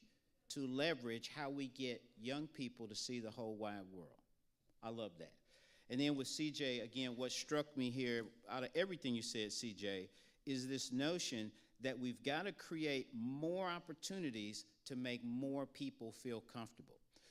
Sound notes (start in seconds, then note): none